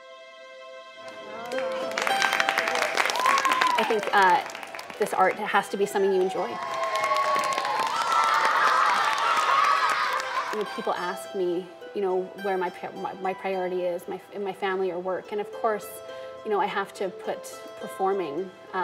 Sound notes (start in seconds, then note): 0.0 light string music; 0.2 audience applauding; 5.6 audience cheering and applauding